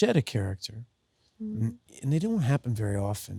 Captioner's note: Sydney hums